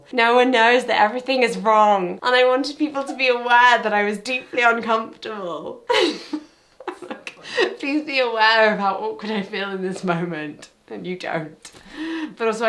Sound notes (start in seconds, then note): 5.8 laughs